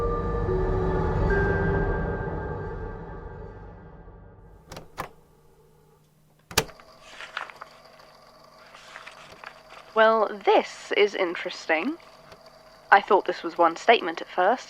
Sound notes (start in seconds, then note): 4.5 click; 6.0 papers being flipped through